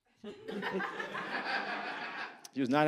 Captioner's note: audience laughs